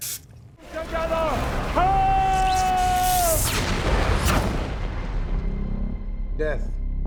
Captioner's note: electricity crackles